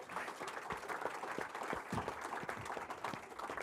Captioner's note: applause